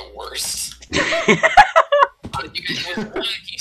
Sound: laughter from everyone

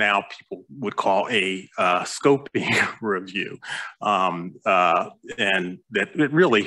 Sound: chuckles

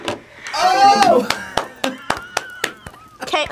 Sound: applauds

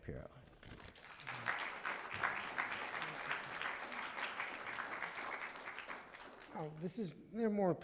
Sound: applause

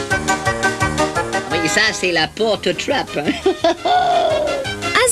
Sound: laughs

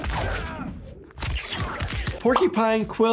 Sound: fighter groans

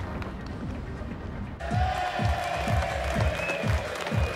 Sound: cheering

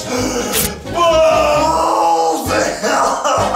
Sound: screams

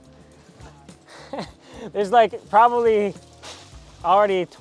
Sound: chuckles

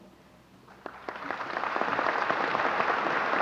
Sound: applause

